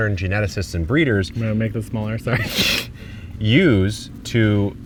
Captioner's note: laughing